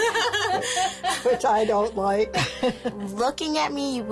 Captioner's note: laughing